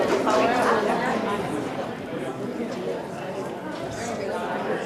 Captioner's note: group chattering